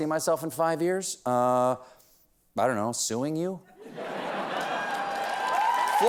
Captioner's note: laughter; cheers and applause